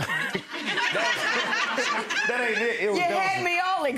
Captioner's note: audience laughing; laughing